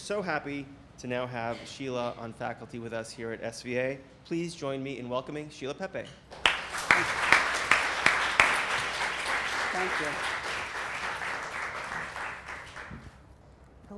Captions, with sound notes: We are so happy to now have Sheila on faculty with us here at SVA. Please join me in welcoming Sheila Pepe. (applause) - Thank you.